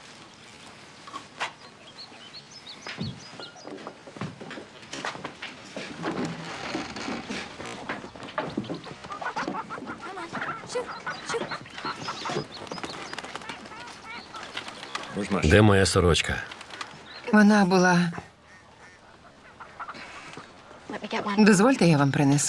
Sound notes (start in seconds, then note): 7.8 chickens clucking